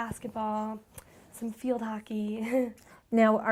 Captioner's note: chuckles